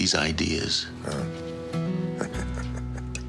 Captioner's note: chuckling